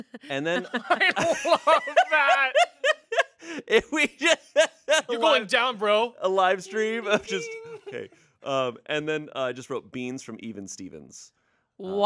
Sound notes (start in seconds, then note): 2.4 everyone laughs; 4.1 laughs